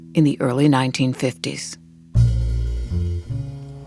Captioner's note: soundbite of archived recording